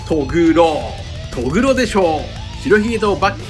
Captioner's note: laughs